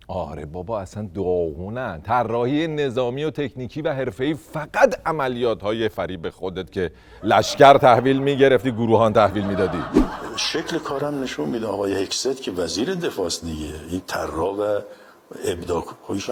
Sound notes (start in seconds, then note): 9.9 laughter